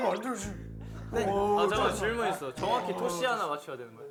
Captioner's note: deep voice